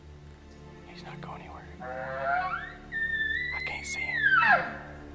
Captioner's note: bugling elk call